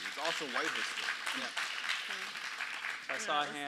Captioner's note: audience applauds